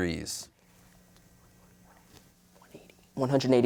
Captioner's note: whispering